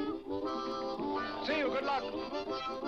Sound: bee buzzes

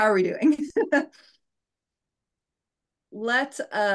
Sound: laughing

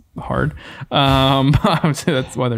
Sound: men laughing

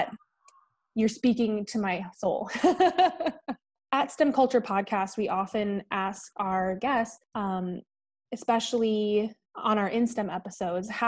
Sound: thankful laughter

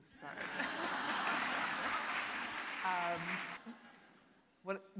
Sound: audience applauding

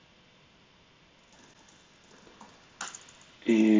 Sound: computer keyboard clicking

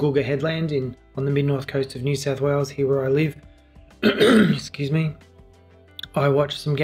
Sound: coughs

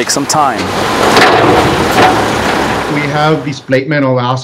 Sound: engine revving

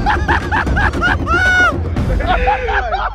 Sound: laughing

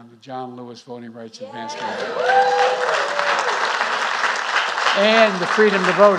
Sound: applause

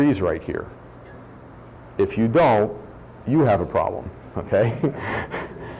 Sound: laughs

